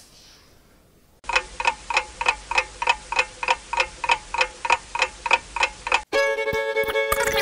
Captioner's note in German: Uhren Ticken